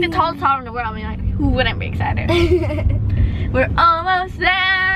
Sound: laughing

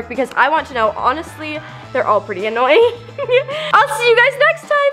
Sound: laughs

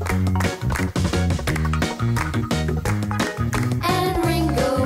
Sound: clap! clap! clap! clap! clap!

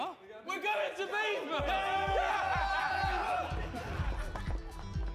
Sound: cheering and laughter

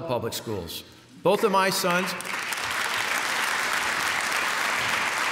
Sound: applause

